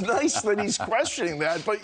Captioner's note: laughter